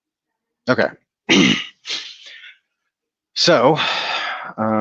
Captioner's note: clears throat